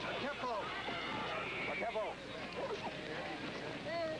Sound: speaking Sioux

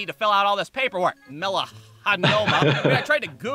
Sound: laughter

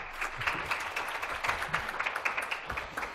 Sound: applause

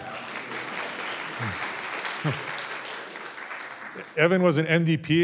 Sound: audience applauds

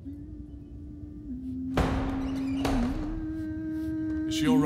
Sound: Shan hums. A door bursts open

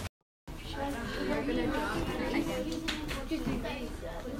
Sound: chattering

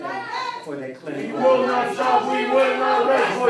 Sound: protesters chanting

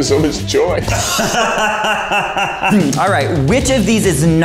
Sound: laughing

